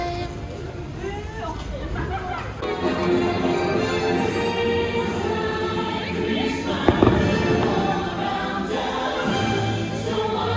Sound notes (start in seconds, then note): 6.8 fireworks